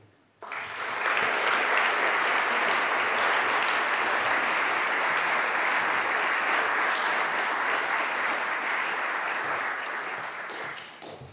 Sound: applause

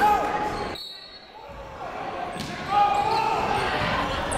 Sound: whistle blows; coaches yelling; crowd talking

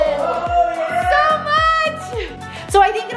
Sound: cheers

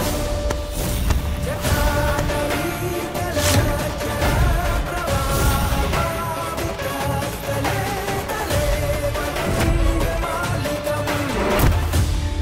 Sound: chant

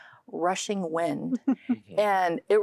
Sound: giggling

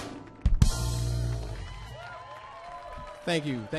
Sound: audience clapping; audience cheering

